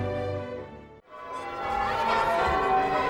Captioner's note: church bells ring